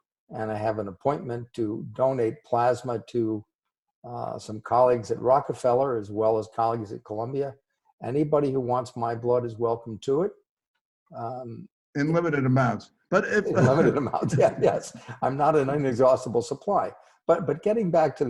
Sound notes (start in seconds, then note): 13.1 laughing